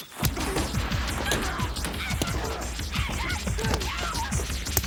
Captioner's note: dramatic music; Jodie yelling